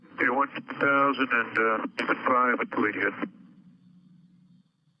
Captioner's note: men chattering